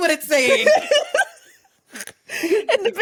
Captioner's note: laughs